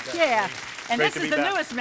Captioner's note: audience applauding